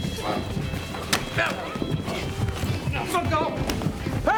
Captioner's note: grunting